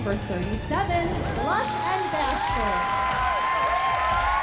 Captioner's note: applause, cheering